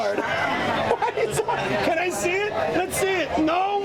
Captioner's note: laughs